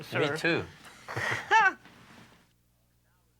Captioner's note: laughs